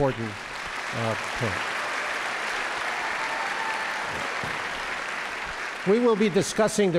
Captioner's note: audience applauding and cheering